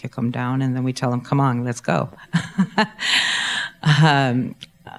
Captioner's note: laughs